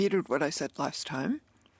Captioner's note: speaking in French